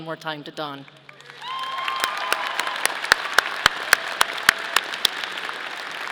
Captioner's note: audience applauding